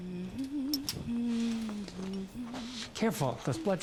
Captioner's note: humming